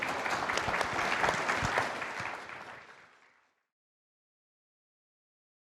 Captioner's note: audience and panelists applaud